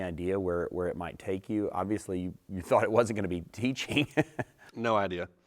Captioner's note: laughter